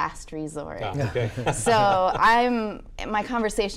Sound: laughing

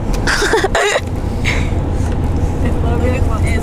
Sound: laughing

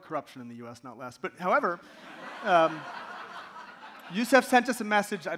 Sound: audience laughing

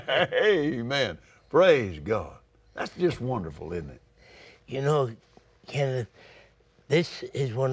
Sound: both Laugh

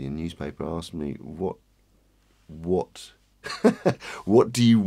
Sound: laughs

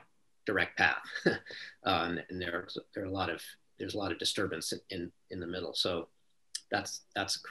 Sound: laughter

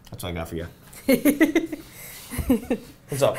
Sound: laughing

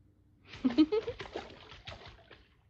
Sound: giggles

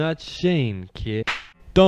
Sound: gunshot

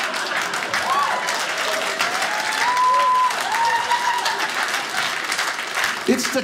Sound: audience laughing; audience cheering

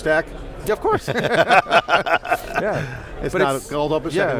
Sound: both laugh

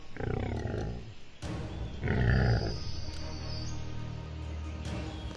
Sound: Black Panther growls

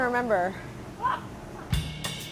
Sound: laughs; uptempo music

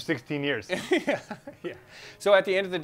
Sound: laughing

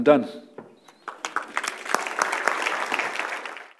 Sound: applause

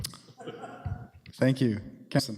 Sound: laughter

